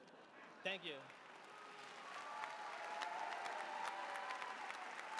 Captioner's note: applause